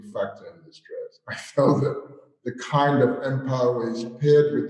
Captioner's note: chuckles